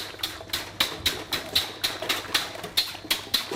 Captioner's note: loud whisking noises